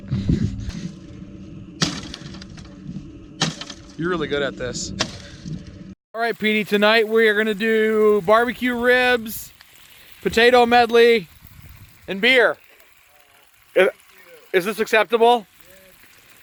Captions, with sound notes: (cracking) You're really good at this. Alright Petey, tonight we're gonna do barbecue ribs, potato medley and beer. Is this acceptable?